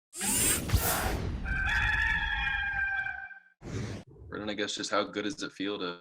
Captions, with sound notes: (swoosh) (Gamecock crowing) - Brennan, I guess just how good does it feel to